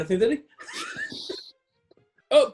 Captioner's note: sniggering